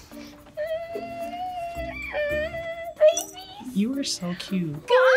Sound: whimpers

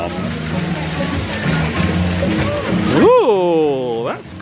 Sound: water splashing

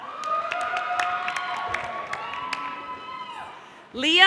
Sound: audience applauding

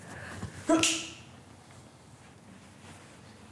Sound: snap

